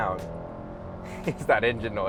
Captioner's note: car revving